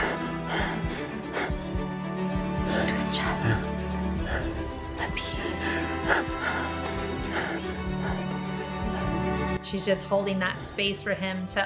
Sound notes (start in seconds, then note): 0.1 Anthony breathes heavily; 6.2 Anthony breathes heavily; 8.4 dramatic music